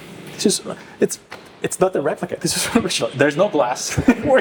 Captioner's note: stammering in awe